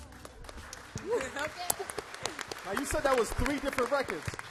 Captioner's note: applause